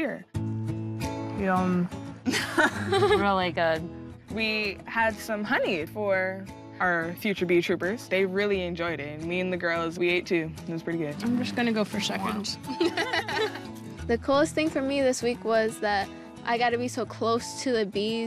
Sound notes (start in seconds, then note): 15.4 all laugh